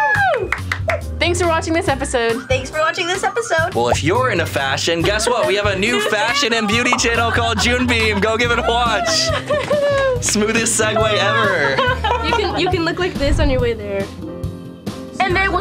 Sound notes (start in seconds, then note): 0.0 cheering; 0.0 claps; 9.8 laughing